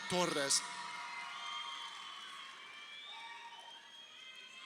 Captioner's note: crowd cheering